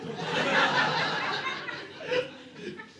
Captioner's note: audience laughing